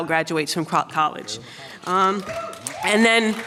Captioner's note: applause